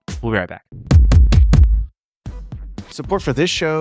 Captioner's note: screen thumping